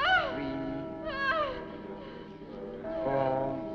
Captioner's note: people chanting